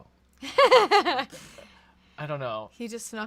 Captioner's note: laughs